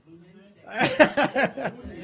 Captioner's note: laughter